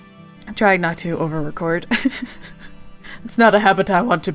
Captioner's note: laughs